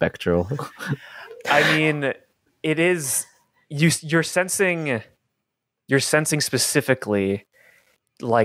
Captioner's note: laughs